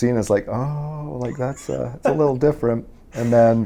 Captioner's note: interviewer laughs